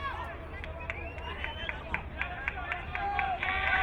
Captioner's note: crowd cheering